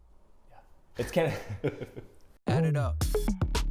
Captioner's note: both laugh